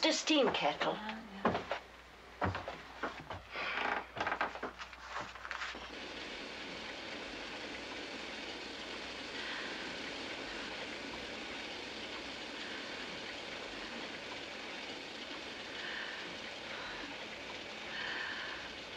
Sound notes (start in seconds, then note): 11.1 low hissing; 17.9 deep, irregular breathing